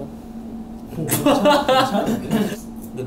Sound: laughing

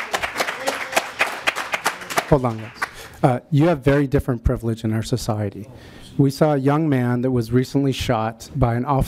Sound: applause

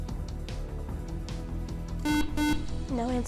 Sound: beep

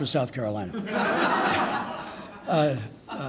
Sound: laughing

